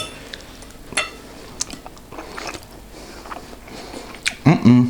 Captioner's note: munch munch